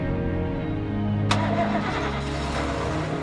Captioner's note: engine starting